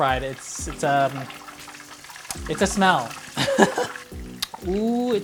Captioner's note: laughing